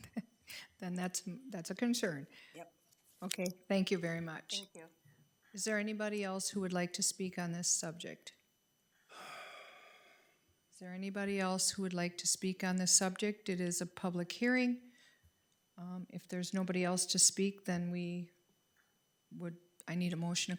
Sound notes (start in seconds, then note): 0.0 person laughing; 9.1 person sighing